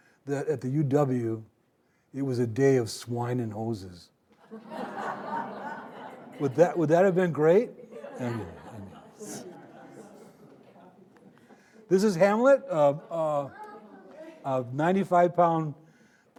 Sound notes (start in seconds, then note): 4.4 audience laughing